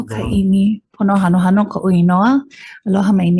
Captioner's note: speaking in foreign language